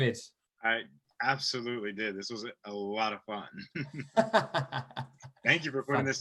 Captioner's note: laughter